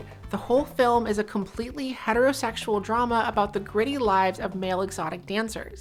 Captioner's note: none